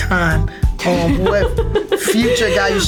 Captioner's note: laughs